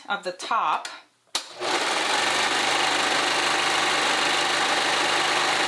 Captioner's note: sewing machine whirring